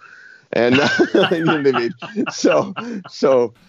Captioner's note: laughs